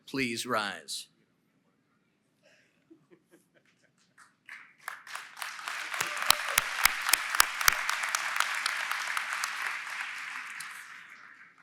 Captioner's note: applause & Cheering